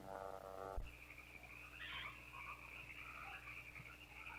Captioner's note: frogs croaking